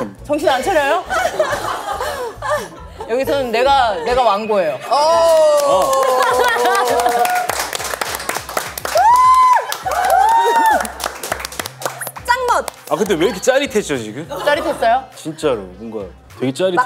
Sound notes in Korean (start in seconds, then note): 6.0 박수